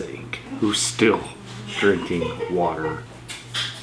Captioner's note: laughter